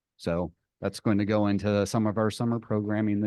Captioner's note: none